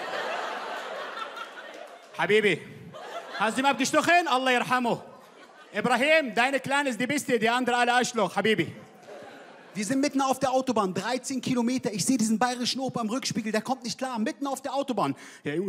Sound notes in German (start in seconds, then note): 0.0 Gelächter; 4.0 Er spricht Arabisch